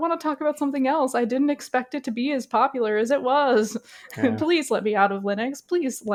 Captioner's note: laughs